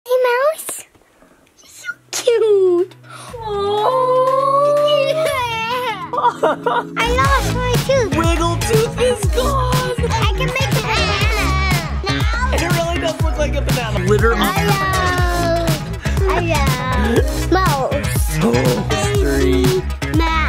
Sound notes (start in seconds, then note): 6.0 laughing